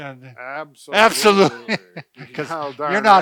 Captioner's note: laughing